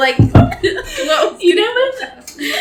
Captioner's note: giggle